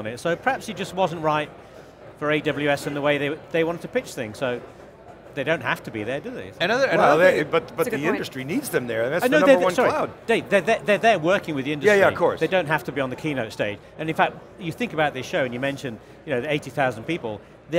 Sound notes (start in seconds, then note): none